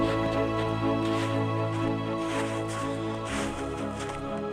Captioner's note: ice crushing